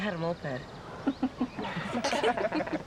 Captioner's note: laughs